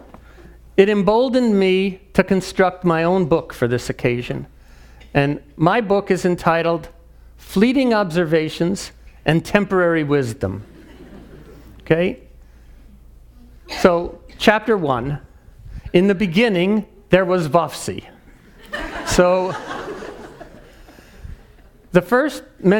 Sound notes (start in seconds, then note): 10.7 laugh; 18.4 laugh